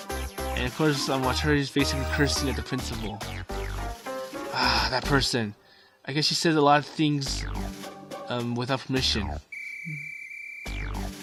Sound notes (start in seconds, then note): 4.5 sigh